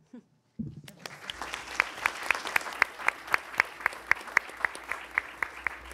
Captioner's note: attendees applauding